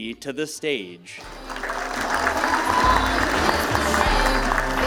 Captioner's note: applause